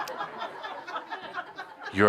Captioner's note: laughter